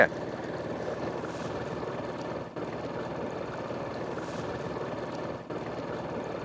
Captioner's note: motor rumbling; water sloshing